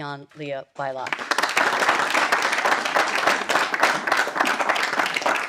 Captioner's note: audience applauding